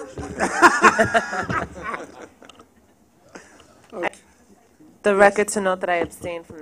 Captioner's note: laughter